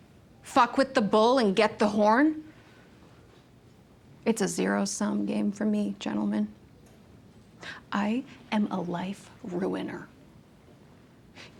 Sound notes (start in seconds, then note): none